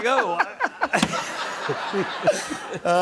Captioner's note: laughter